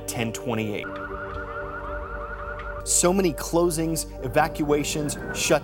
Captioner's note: emergency sirens